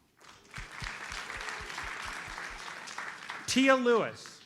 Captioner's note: audience applauds